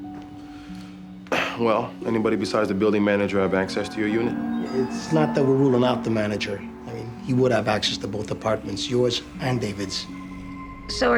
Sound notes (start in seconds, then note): 1.3 clears throat